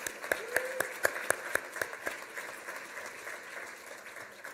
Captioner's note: applause